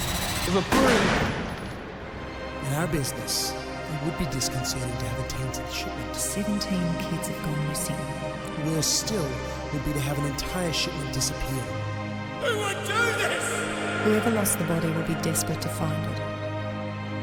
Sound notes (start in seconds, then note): 3.0 echoes; 6.5 echoes; 11.7 echoes